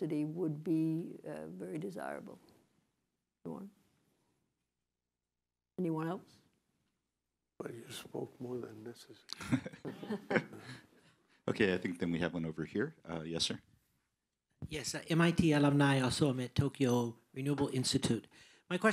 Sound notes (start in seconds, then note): 9.3 laughter